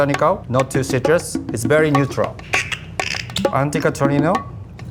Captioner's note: cork squeaks and pops